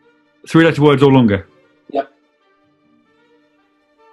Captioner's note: none